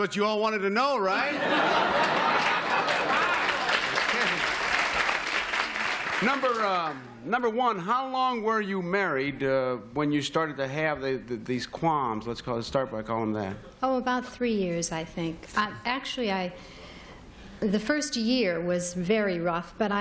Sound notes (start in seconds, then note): 1.1 laughter